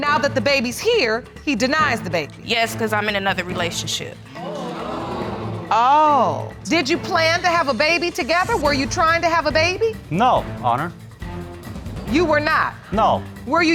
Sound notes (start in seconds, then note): 4.4 audience exclaim